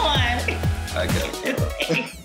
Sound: laughs

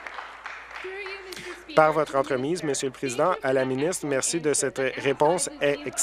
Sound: applause

